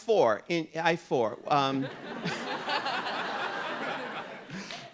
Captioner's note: audience laughing